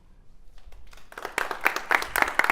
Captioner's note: applause